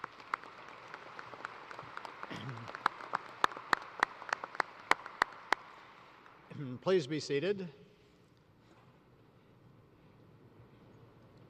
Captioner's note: applause